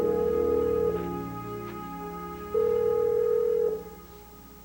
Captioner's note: telephone rings